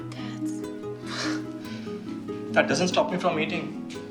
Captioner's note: laughs